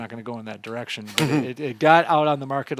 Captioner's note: laughing